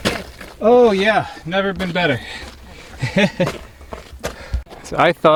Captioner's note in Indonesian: tertawa